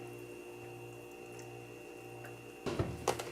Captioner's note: steaming